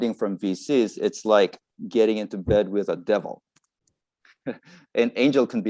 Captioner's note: laughs